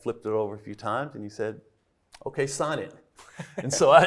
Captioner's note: everybody laughing